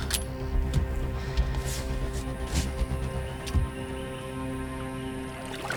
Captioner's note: water splashing